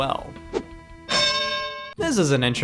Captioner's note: bells dings